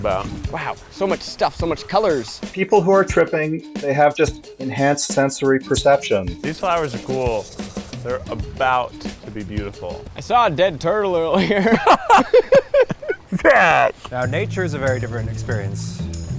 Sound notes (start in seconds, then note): 11.1 laughs; 11.2 laughing